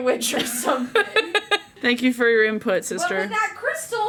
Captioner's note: laughs